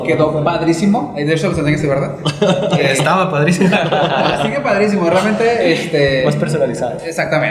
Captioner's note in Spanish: risas